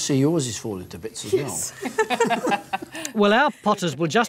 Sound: chuckling

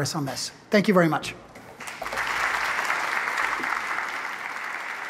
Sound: applause

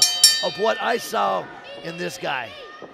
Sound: bell dinging

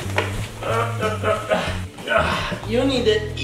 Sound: grunting

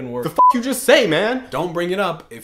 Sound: beep

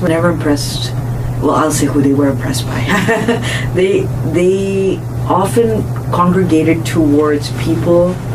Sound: laughs

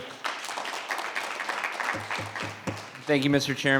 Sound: audience clapping

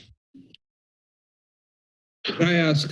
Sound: pause

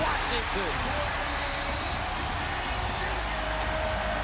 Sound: cheering

